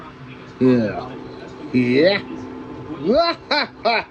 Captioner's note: laughs